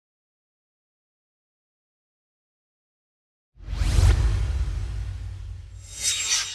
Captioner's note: swoosh